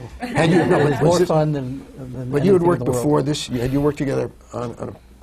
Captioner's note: laughter